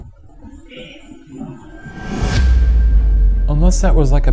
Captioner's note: mysterious voice in background